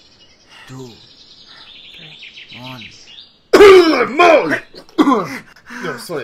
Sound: cough

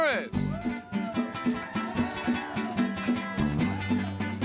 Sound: animando y aplaudiendo; cheering and applauding

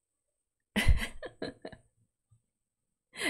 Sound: laughs

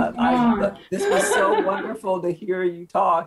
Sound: chuckling

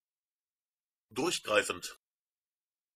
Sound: fast Pronunciation

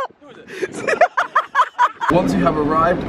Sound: laughing

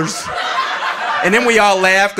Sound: audience laughing

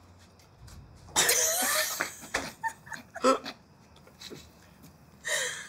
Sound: laughter

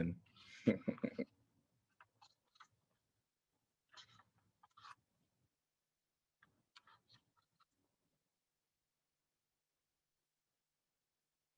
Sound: laughter

